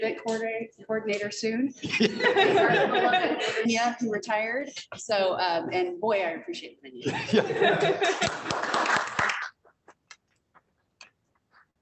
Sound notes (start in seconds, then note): 7.0 laughter